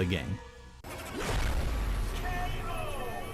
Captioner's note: explosion crashes